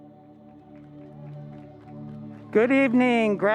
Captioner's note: applause